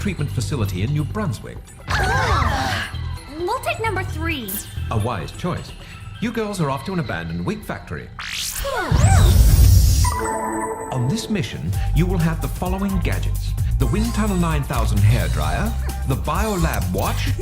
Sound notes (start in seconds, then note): 1.5 gasps